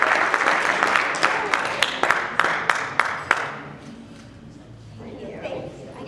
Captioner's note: speaking off mic